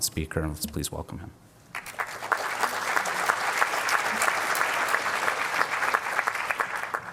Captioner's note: applause